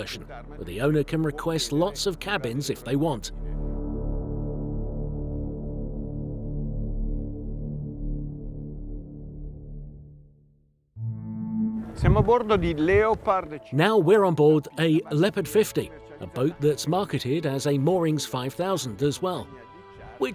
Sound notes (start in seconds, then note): 3.3 dramatic music; 11.5 in foreign language